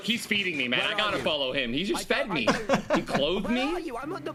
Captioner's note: laughs